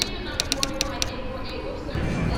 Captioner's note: announcements in an airport lounge